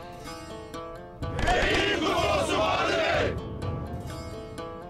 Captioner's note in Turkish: Hep bir ağızdan